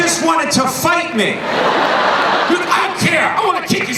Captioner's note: laughing